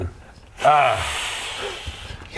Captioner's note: tsssssssssss